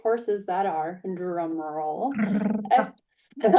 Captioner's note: laughs